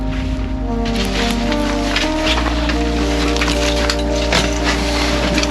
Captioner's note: plastic clacks; soft music continues